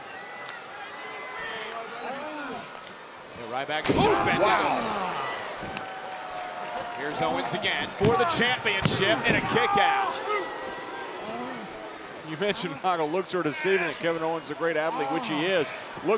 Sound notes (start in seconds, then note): 0.1 audience chattering; 3.9 body thudding